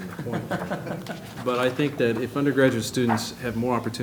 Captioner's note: laughter